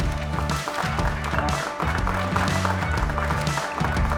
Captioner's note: applause